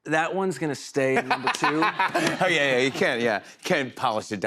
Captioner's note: laughter